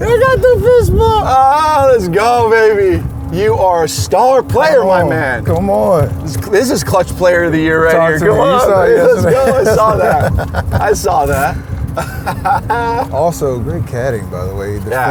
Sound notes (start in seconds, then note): 11.8 laughs